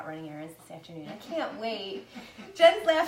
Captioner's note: laughs